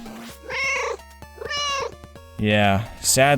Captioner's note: meow